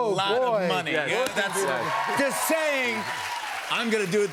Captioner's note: cheers and applause